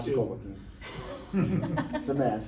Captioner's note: laughter